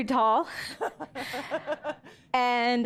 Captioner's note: laughing